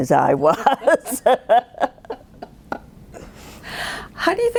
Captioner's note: both laughing